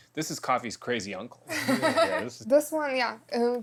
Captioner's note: laughs